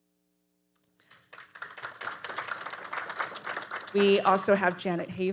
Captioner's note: audience applauding